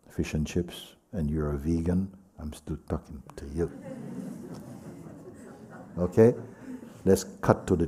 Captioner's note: laughter